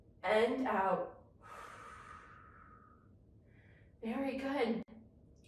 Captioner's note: inhales deeply; exhales deeply